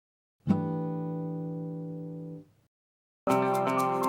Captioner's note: chime sounds; upbeat music